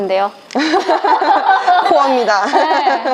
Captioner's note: laughter